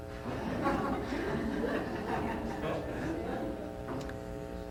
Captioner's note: laughter